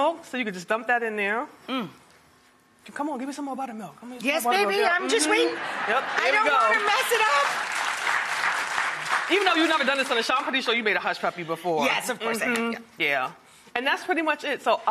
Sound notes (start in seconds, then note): 5.3 laughter; 8.1 applause